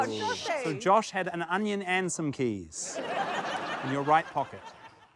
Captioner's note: laughter